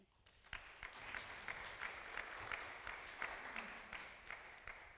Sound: audience applauding

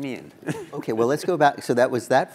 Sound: laugh

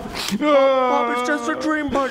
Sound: sobs.wav

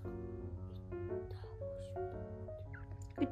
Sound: still whispered~

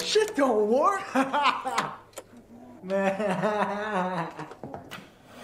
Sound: laughter

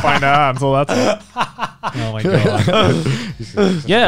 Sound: everyone laughs

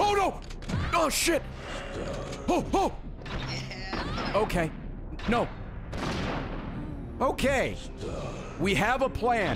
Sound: stress noises

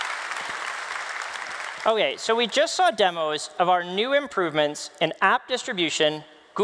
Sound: applause

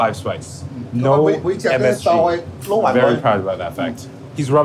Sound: man speaking Cantonese

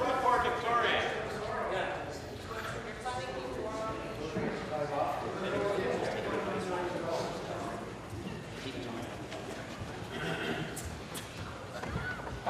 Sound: voice trailing

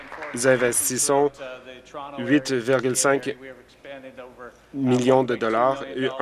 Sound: applause

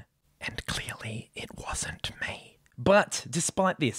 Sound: whispers

